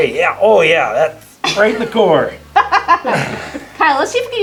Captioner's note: laughter